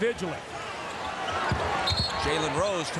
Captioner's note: whistle blows